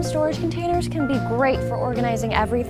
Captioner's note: none